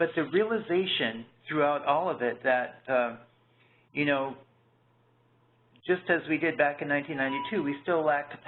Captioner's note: beeping